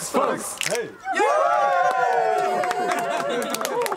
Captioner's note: cheers